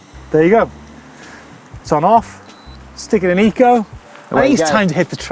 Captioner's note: beep